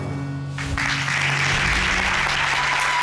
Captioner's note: applause